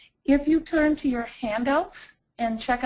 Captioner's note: voiceover